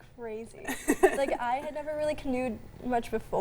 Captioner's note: laughs